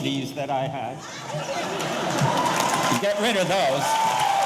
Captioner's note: audience laughing; audience applauding; audience cheering